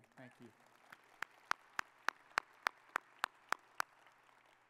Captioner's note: audience applauding